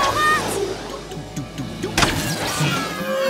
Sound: robot noises; powers down

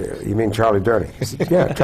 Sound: laugh

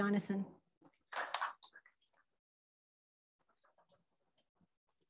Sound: crowd applauds

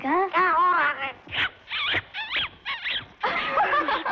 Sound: parrot Chirping; laughing

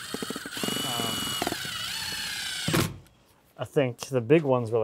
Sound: drill whirs

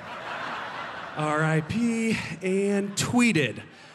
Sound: laughter

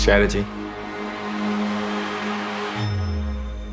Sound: crowd cheering

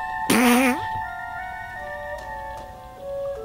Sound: grunting; twinkling music; air escaping

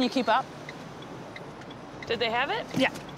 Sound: blinkers ticking

